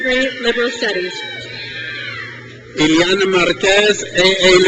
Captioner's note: crowd cheers